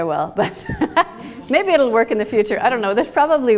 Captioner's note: laughs